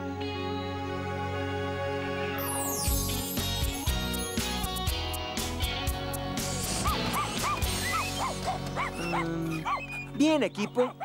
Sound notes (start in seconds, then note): 6.8 barking